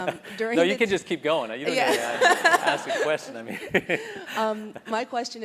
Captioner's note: laugh